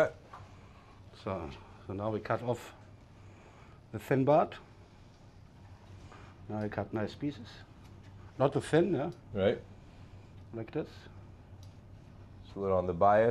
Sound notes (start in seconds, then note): none